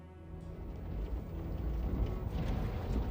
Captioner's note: vehicles approach